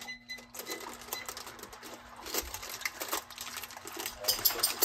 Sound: electronic beeping

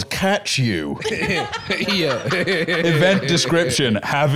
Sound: laughing

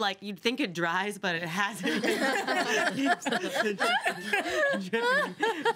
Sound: girls laughing

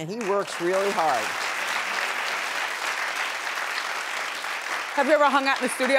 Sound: audience clapping

